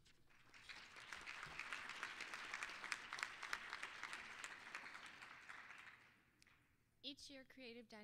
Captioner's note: applause